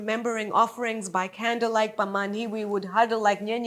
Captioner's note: speaks in a foreign language